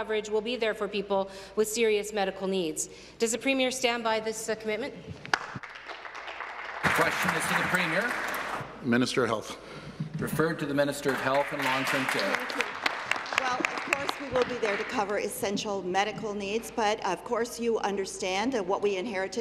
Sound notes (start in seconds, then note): 9.0 applause